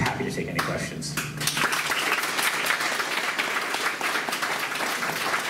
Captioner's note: clapping